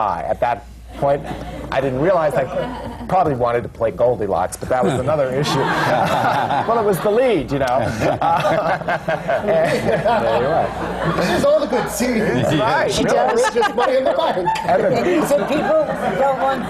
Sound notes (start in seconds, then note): 10.3 laughs